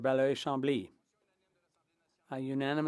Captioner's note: speaking French